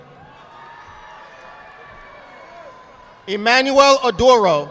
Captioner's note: audience applauding